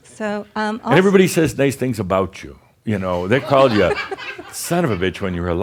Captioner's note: more chuckles